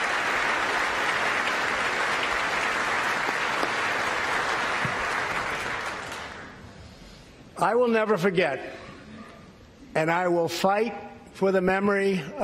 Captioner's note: applause